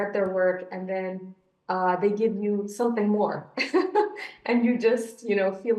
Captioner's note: chuckles